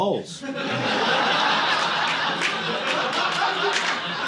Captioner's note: audience laughing